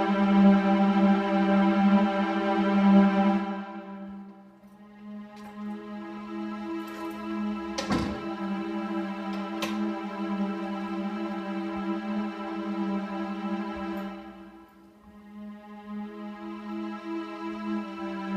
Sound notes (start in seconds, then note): 0.0 somber music; 6.8 door closing; 10.2 somber music